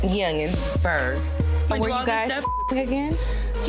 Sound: beep

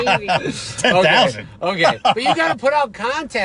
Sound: laughs

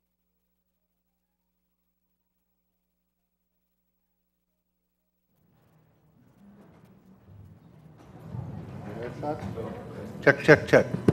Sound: microphone malfunction

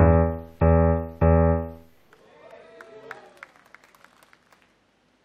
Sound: scattered applause

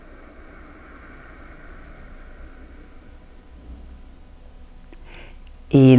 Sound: exhales

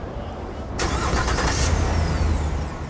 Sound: engine turning over

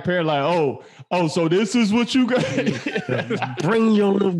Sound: all laughing

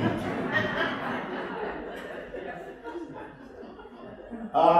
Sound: laughter

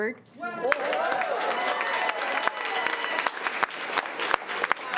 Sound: crowd cheering and clapping

